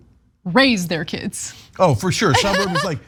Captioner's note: laugh